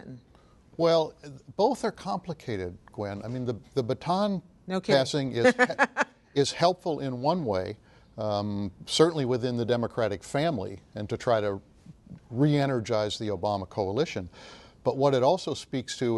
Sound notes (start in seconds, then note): 6.3 laughs